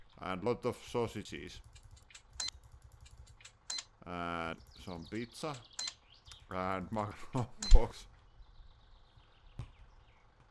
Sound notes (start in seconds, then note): 3.0 mouse clicking quickly, register beeps